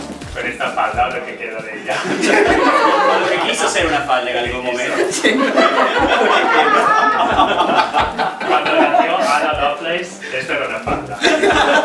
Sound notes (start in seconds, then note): 4.5 laughs